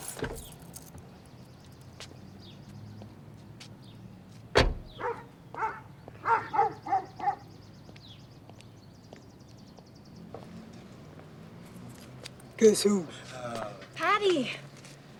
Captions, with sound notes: (birds singing) (dog barking) - Guess who? - Patti.